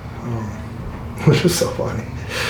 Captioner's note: laughing